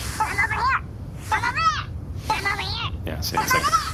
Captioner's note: mocking